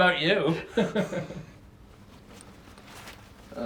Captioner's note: both laughing